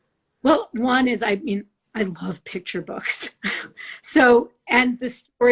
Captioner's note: chuckles